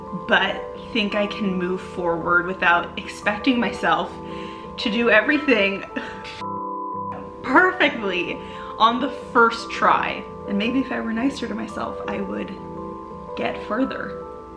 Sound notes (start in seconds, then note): 6.4 beep